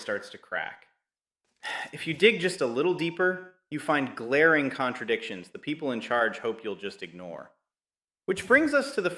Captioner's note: sighs